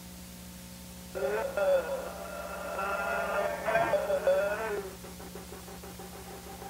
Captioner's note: distorted and garbled moaning